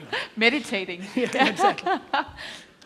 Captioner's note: laughing